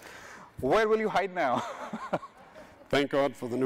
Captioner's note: chuckles